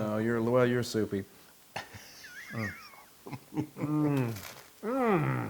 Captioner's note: laugh